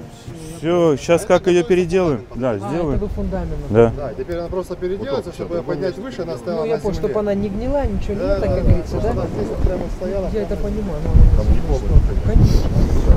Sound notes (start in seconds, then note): none